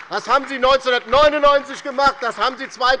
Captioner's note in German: Beifall bei der LINKEN und der SPD